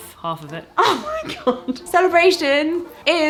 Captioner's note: laughs